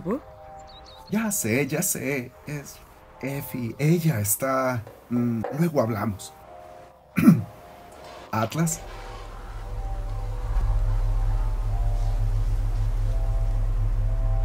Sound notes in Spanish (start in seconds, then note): 7.1 carraspea